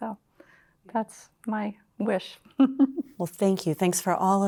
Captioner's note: laughter